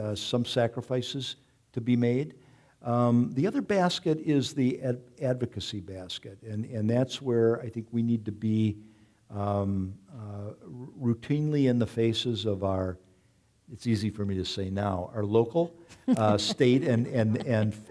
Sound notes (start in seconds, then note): 16.0 audience chuckling